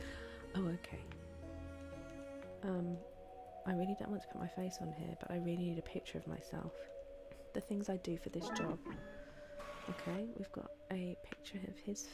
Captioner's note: laughs